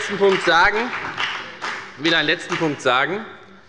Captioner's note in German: Beifall bei der FDP